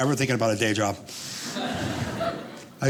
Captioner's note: audience laughing